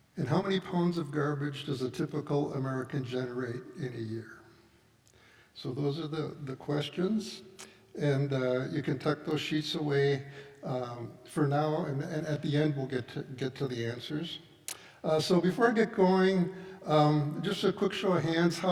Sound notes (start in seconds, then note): none